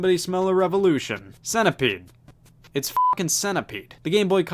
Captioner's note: beep